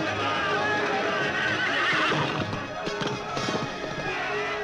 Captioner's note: suspenseful orchestral music; horse whinnies